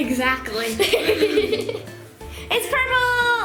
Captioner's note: laughter